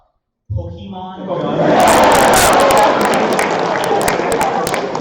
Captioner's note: laughter